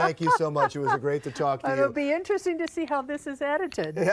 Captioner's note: laughs